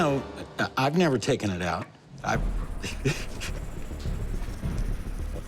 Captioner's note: laughs